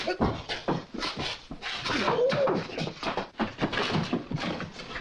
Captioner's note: men grunting and scuffling